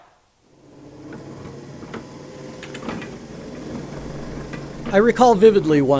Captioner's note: sounds of printing press